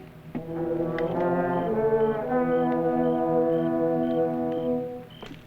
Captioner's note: crickets chirping